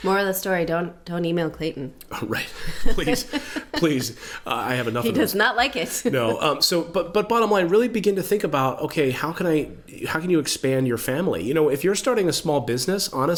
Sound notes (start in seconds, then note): 2.6 laughs